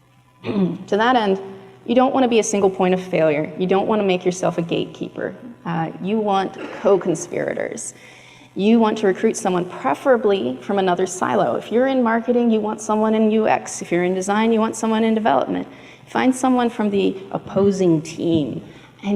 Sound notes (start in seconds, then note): 0.4 clears throat